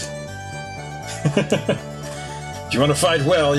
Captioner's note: chuckles